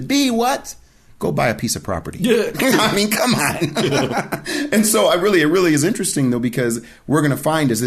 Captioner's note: both laughing